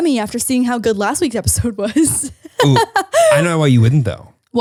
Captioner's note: laughs